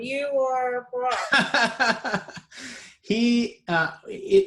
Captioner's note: laughing